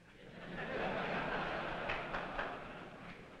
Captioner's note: laughter